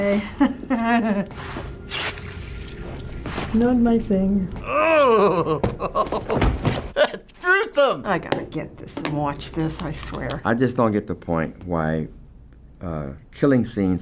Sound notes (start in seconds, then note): 0.1 chuckling; 4.7 laughing